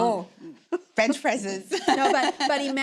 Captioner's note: laughs